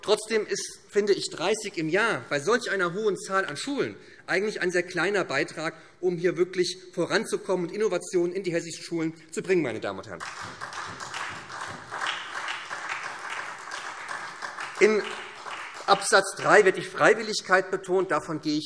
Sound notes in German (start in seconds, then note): 10.1 Beifall SPD